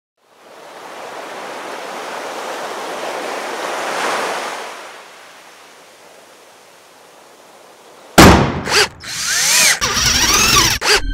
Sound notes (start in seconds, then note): 0.3 waves crashing on the shore; 8.5 hammer hit, screws being drilled